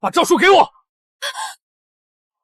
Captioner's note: gasps